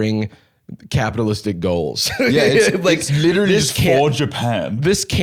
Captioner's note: laughs